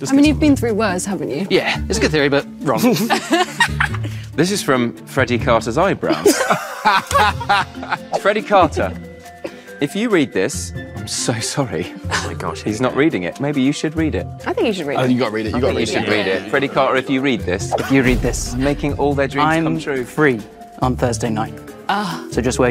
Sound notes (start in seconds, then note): 2.7 group laughs; 6.1 group laughs